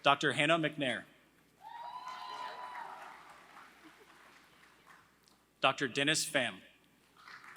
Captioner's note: applause